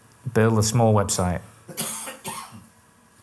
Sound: coughs

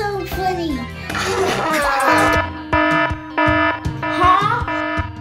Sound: alarm blaring

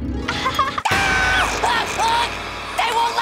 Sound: screaming

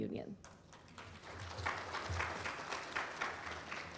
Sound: applause

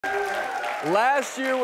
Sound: applause; audience cheers

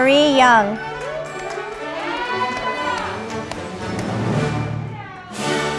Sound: audience applauding

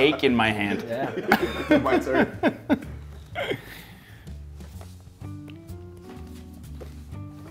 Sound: laugh

